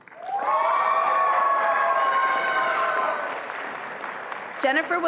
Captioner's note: attendees applauding and cheering